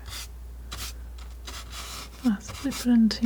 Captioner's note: scratching